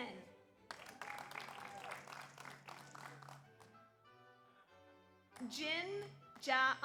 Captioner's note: audience applauds; audience cheers